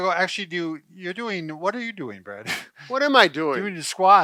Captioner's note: laughs